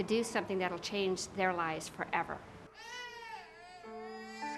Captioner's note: child crying